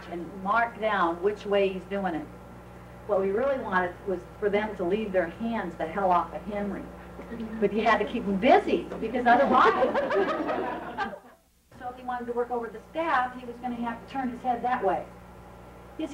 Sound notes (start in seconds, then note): 9.4 laughing